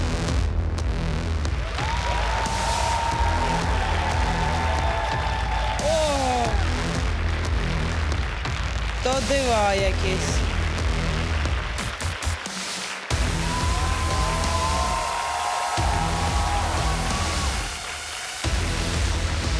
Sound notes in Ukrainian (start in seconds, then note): 2.0 оплески; 12.1 оплески